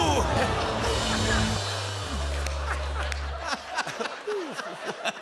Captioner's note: laughter; laughter continues